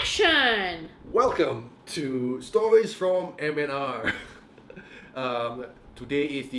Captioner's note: laughs